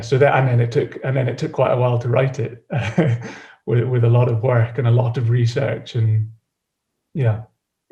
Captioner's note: chuckles